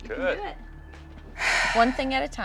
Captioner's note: sighs